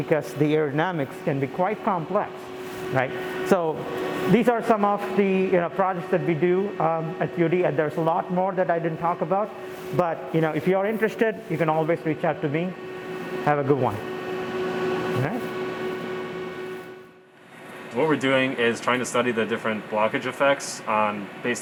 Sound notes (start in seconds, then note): 16.3 machinery hums